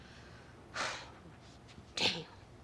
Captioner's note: sighs